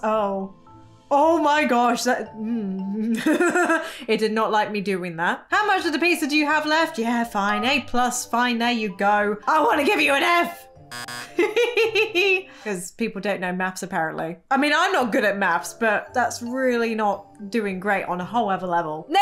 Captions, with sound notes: Oh, oh my gosh, that... (laughs) It did not like me doing that. "How much of the pizza do you have left?" Yeah, fine, A+, fine, there you go. I wanna give you an F. (chuckles) 'Cause people don't know maths, apparently. I mean, I'm not good at maths but that's really not doing great on a whole other level.